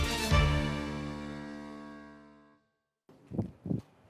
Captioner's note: echoes